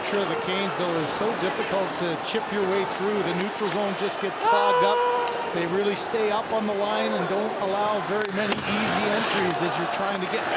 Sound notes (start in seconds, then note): 2.6 booing